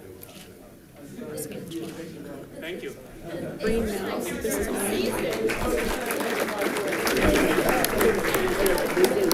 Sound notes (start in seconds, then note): 3.6 crowd chatting; 5.8 audience clapping